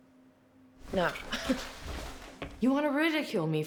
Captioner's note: scoffs